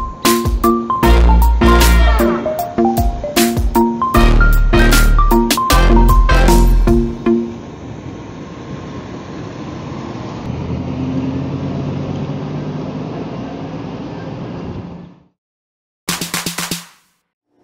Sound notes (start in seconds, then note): 0.0 ice cream truck music; 7.6 truck sounds; 16.1 clapping